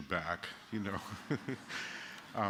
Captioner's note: laughter